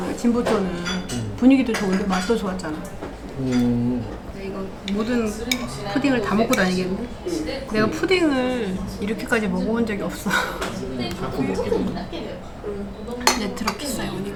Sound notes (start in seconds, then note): 10.2 laughs